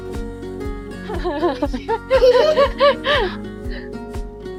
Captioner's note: laughter